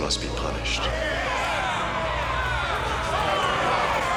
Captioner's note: people shouting